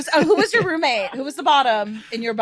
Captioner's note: group laughing